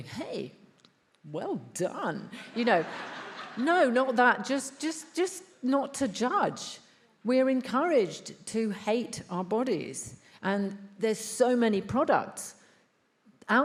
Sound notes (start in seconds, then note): 2.4 attendees laughs